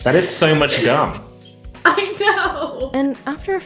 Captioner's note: laughing